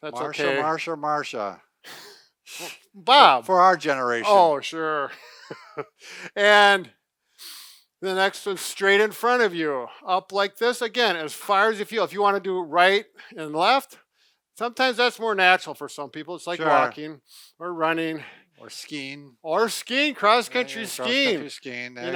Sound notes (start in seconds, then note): 5.0 laughs